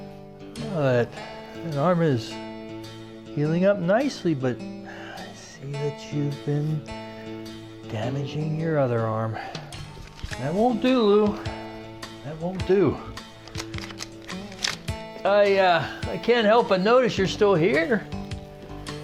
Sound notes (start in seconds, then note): 9.4 sigh; 13.2 cards being flipped through